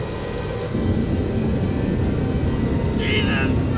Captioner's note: aircraft whooshing; intense, dramatic music